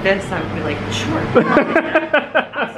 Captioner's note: laughing